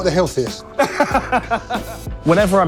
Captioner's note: laughs